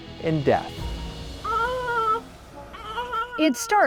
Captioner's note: baby crying